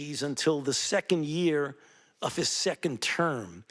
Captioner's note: none